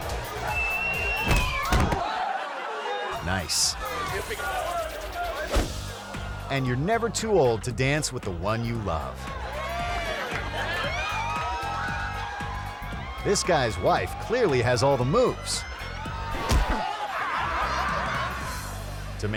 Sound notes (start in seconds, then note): 9.7 crowd cheering; 16.8 crowd laughing